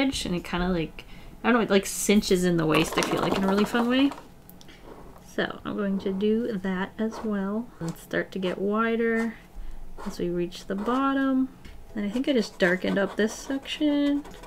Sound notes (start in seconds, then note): none